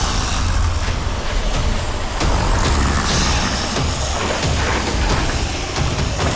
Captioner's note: dramatic music; zombies growling